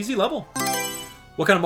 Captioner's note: Mario Selection Sound